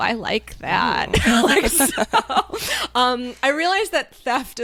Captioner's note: both laughs